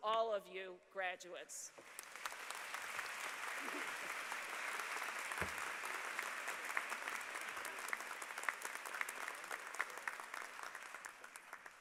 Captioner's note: applause